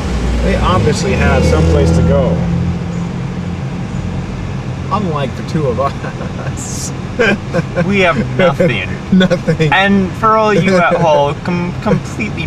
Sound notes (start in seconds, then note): 7.1 laughing